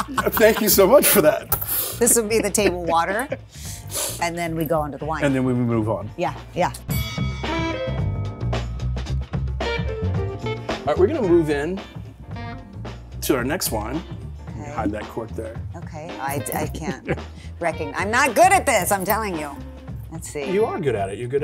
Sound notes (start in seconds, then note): 6.9 loud ding; 9.3 upbeat music